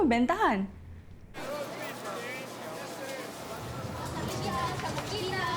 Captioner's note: crowd chattering